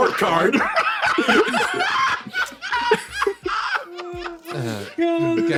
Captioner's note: cackles